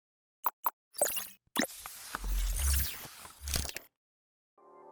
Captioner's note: mechanical whirring